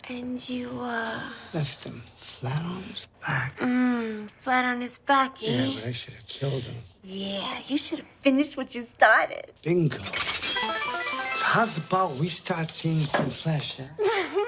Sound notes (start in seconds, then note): 10.0 coins falling from slot machine; 14.0 Holly giggles